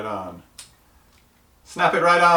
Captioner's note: toothbrush clicks